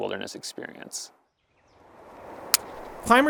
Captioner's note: birds chirping; gear clicks